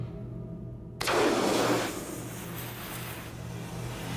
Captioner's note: flare pops